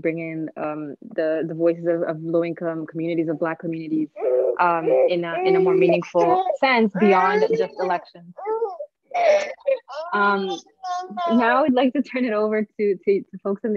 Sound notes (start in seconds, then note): 9.1 baby crying